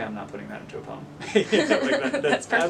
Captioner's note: they both laugh